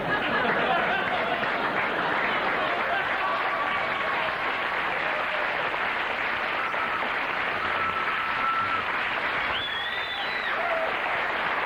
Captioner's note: laughter and applause